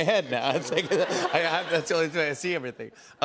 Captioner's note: laughter